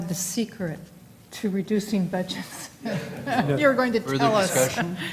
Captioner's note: laugh